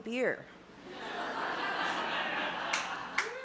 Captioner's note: laughter